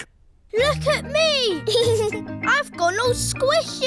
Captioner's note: giggles